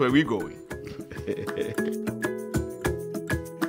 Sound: laughter

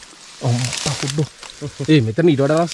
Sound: exclamation

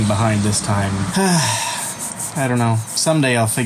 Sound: sighs

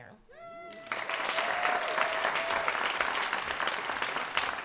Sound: cheers and applause

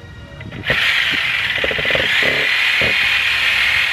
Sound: saw whirring

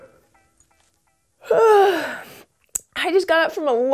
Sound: yawns

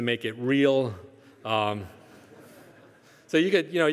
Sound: audience chuckling

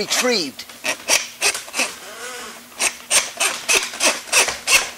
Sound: cable scratching

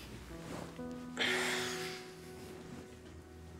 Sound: sighs

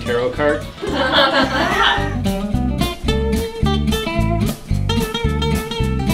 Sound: laughter in the room

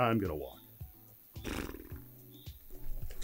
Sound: scoffs

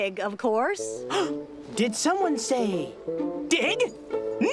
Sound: gasp!

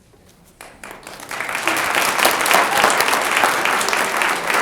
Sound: audience applauds

